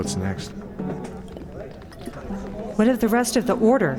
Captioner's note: drinks